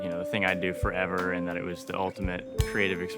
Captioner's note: metal clinking